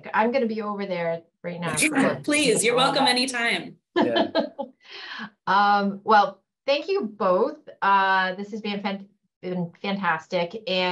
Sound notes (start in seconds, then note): 4.0 laughs